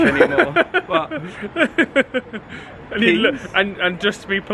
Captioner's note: laughing